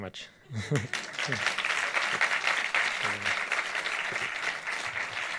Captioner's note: audience applauds